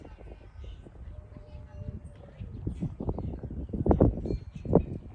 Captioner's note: wind blowing